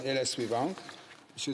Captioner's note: speaking French